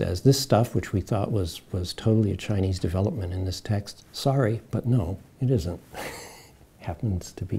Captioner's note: chuckles